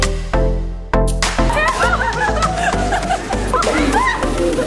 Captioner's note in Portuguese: Risos